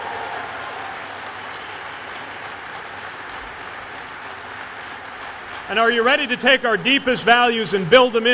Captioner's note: cheers/applause